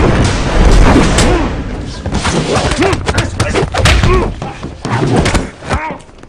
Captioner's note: pounding; man granting